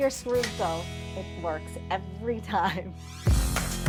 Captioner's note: chuckles; upbeat techno